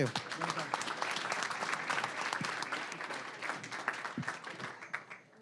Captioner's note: applause